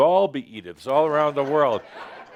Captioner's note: laughter